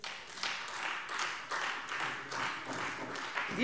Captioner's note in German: Beifall Freie Demokraten